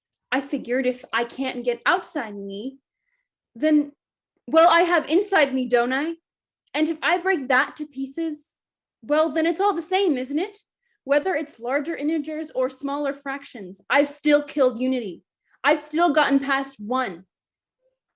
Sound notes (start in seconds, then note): none